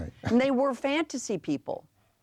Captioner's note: chuckles